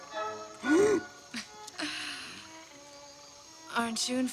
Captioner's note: laughs uncomfortably